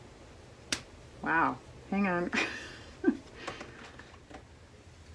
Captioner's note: laughs